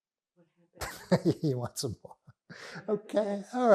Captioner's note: laughing